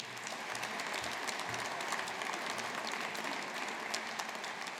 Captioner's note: audience applauding